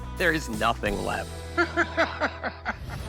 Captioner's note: laughs